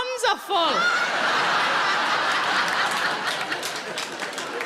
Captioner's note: audience laughing